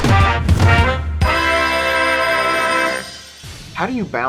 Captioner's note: ringing